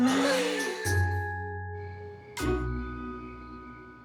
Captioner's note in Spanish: Exhalan